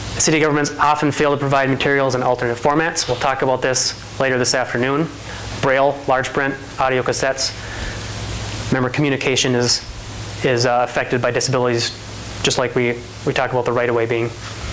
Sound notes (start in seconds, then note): none